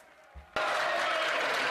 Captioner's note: some Applause